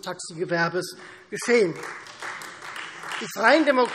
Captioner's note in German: Beifall Freie Demokraten